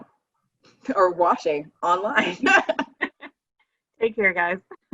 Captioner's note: laughing